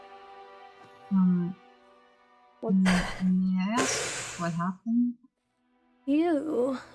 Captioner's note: ROSE inhales